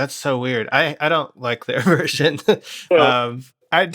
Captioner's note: laughter